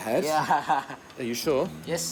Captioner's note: laughs